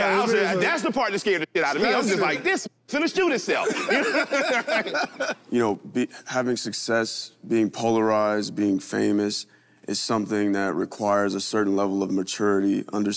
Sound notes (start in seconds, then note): 3.6 all laugh